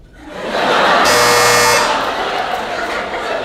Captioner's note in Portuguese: campainha